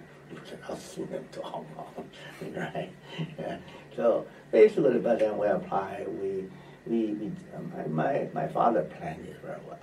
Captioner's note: laughs